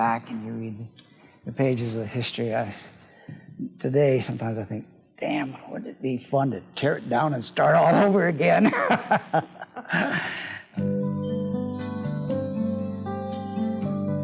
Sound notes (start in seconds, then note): 8.6 laughs; 11.6 soft country music